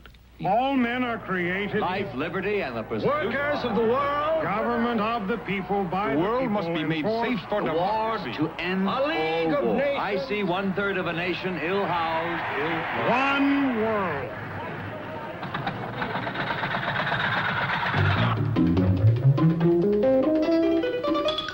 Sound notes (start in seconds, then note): 11.8 mumbling; 16.9 metal clanking; 18.4 soft upbeat music